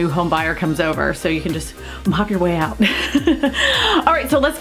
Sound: laughs

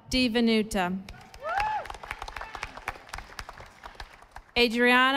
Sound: audience applauding

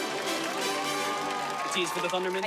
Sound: cheering

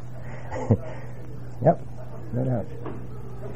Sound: laugh

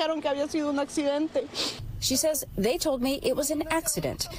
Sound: speaking non-english

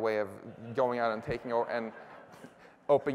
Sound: laughter

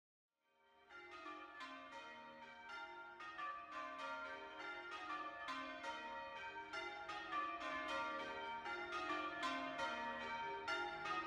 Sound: St James bells ringing

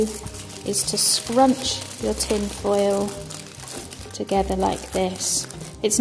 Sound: tin foil rustles

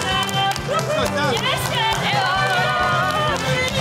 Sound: cheering

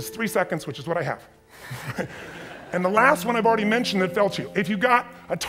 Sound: audience chuckles

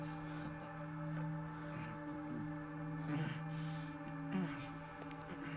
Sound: Gabriel groans

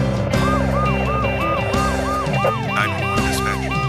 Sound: siren wailing

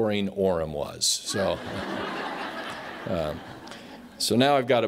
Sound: laughter

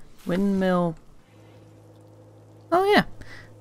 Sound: quiet buzzing

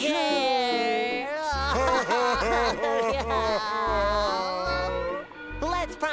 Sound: crying

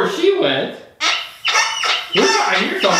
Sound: horn honking

